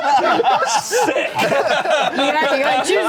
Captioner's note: everyone laughing